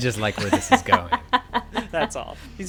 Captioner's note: laughing